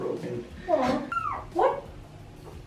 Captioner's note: mew